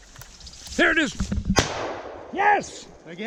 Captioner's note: gun banging